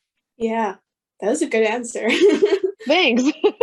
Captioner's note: laughs